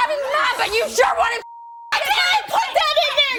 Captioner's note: beep